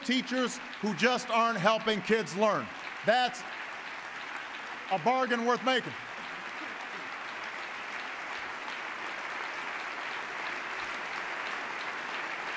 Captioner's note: applause